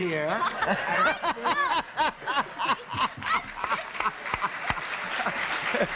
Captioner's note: laughter and applause